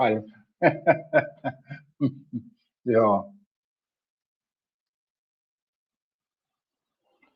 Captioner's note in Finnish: naurua